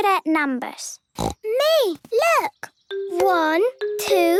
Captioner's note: snorting